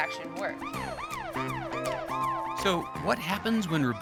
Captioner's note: alarm blaring